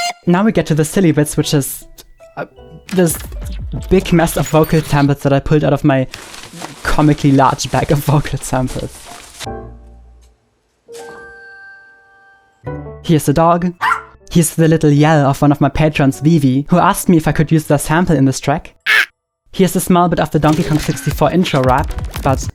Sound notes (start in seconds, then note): 13.8 barks; 18.8 yells